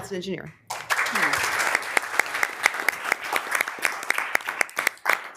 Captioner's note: members applauding